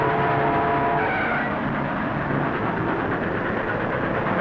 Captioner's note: brakes squeal